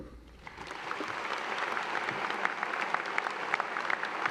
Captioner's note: applause